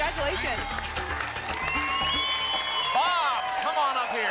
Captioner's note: applause and cheering